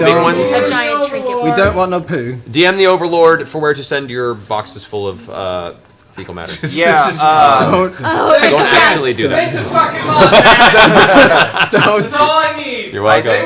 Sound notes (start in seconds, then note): 1.4 English accent; 9.7 laughs